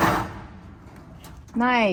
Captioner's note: metal thuds